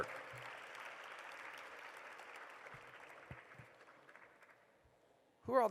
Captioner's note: applause